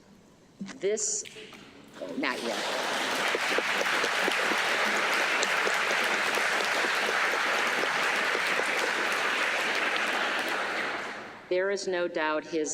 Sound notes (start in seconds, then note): 2.3 applause